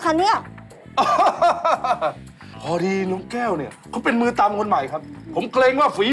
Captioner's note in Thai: หัวเราะ